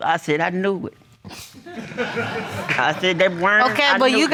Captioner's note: audience laughing